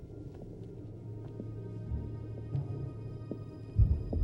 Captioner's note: footsteps